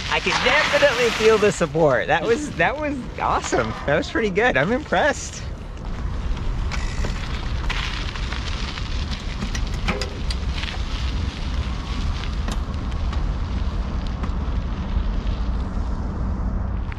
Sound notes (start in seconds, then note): 7.2 air whooshing; 8.5 bicycle grinding